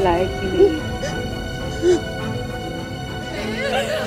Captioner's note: Meher crying